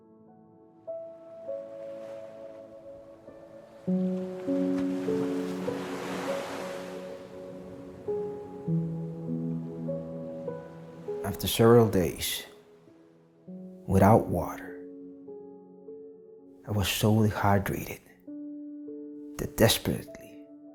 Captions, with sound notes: (gentle music continues) (waves crashing) After several days without water, I was so dehydrated, that desperately,